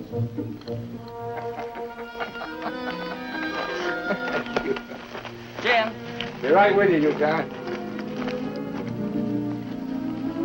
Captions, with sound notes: (gentle music) (Jim chuckling) - Jim? - Be right with you, Yukon.